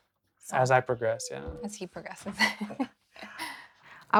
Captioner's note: laughing